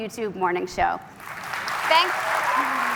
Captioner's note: cheers and Applause